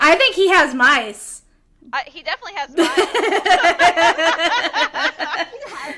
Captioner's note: laughter